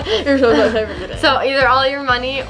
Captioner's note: stutters